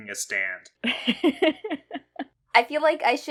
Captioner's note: laughs